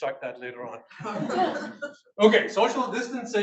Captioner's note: audience laughs